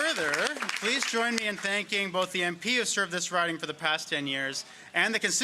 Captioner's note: applause